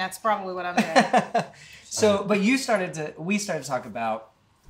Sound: chuckles

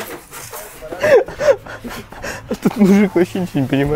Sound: laughing

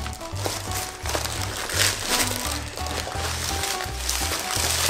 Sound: plastic pack crackling

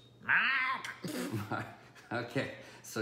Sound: laughing

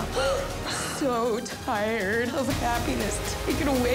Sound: sobs

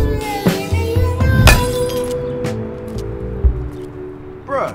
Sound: thwacking

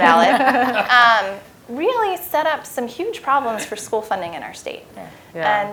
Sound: laugh

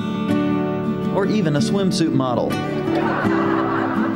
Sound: laughter

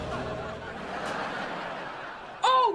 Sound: laughing

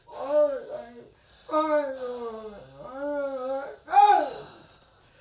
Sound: speaks foreign language

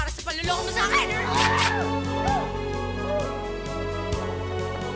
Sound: Raymond screams

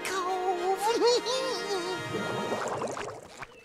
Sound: laughing

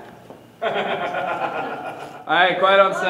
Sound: laughing

